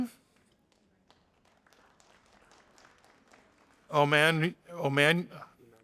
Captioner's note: audience applauding